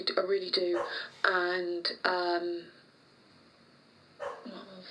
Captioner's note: distant dog barks